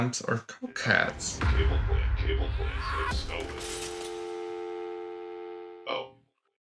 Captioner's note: phone busy line